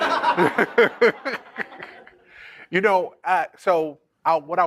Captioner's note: laughter